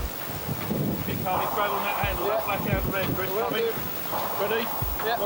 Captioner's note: water drowns out speakers